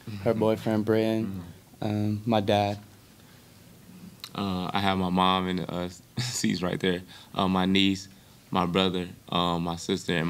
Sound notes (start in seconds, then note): 6.9 chuckles